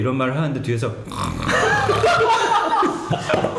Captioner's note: snoring